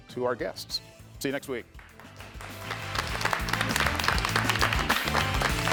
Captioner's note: audience clapping